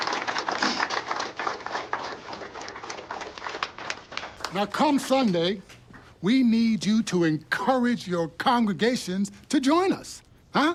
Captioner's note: sniffles